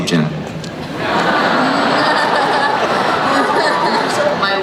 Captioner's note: laughing